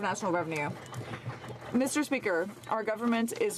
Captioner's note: some Applause